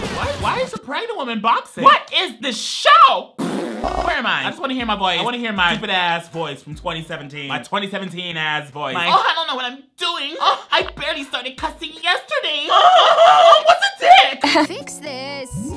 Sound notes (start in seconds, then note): 3.4 laughs